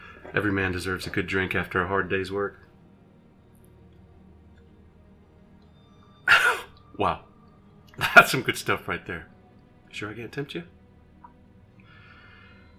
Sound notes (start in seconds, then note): 6.3 gasping